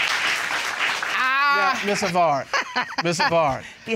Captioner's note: laughs